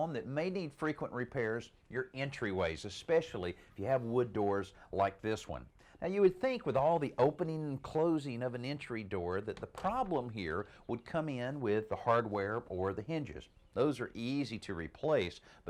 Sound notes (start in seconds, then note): none